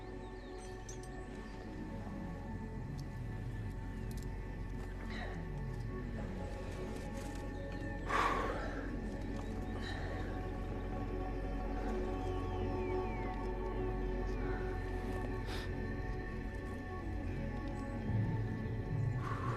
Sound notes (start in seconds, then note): 8.1 exhaling deeply